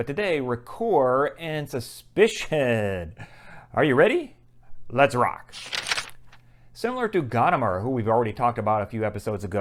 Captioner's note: page turn